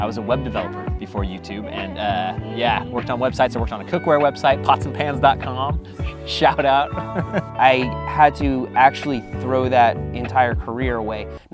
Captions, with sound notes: - I was a web developer before YouTube. And yeah, worked on websites, worked on a cookware website, potsandpans.com. Shout out. (laughing) - I had to actually throw that entire career away.